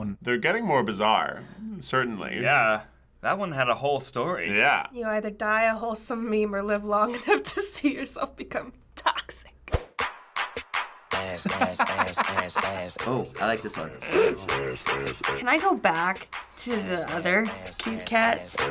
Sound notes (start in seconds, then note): 7.1 chuckles; 9.7 clapping; 11.2 laughs; 14.2 bursts out laughing